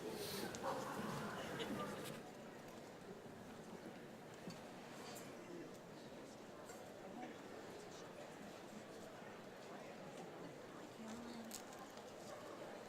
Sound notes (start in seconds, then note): none